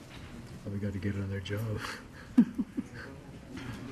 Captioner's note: murmuring